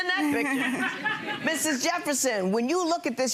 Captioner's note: crowd laughs